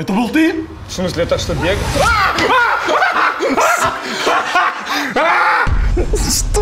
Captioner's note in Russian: крик